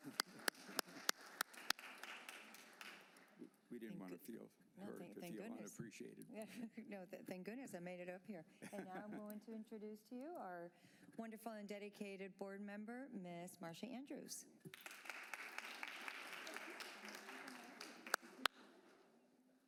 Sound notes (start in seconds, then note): 0.0 applause